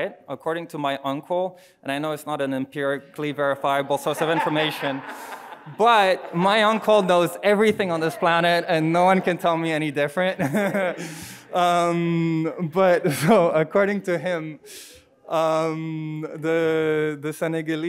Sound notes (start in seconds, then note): 4.9 audience laughing; 11.8 chuckles